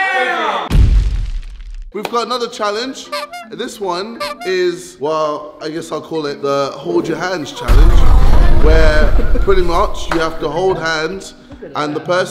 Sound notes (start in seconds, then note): 0.7 explosive sound; 7.6 explosive sound